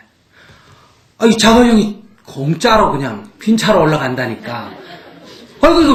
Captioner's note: audience Laughter